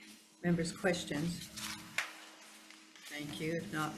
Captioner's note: paper rustling